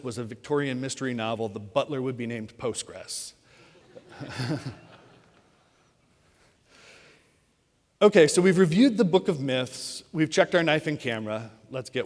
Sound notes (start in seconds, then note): 3.9 audience chuckling